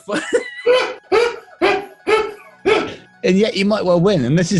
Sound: laughter

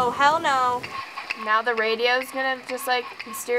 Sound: sassy; mechanical clacking

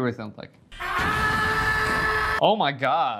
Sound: Guzzlord shouting

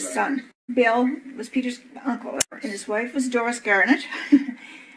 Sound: laughs

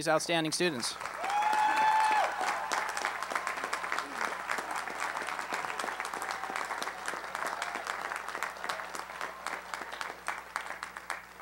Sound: applause

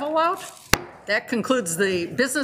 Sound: gavel banging

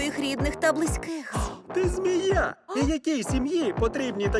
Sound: gasps; laughs

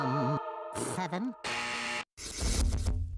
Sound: buzzer sounding

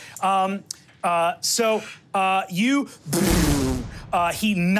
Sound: mimics reverberations

